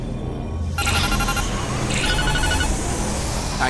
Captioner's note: beeping